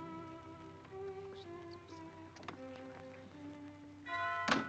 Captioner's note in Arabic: هدير المحرك